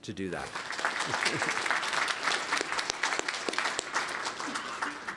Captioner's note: applause